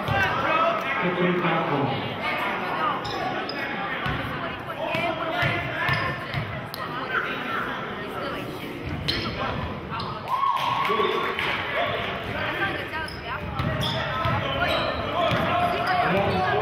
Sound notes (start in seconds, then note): 10.2 cheering